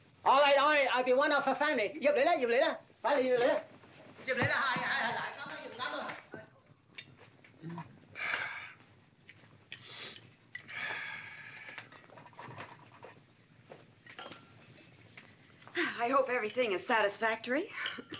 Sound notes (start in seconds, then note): 2.0 yammering in Cantonese; 6.9 dinner sounds